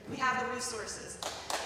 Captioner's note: applause